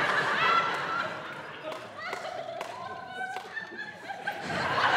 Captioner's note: audience members laughing